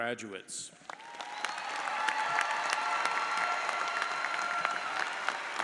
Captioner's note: audience cheers and applauds